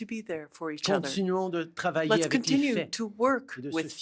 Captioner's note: speaking French